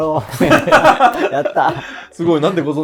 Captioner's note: laughing